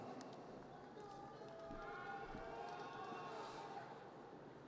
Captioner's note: audience cheers